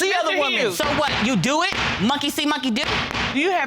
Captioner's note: gavel bangs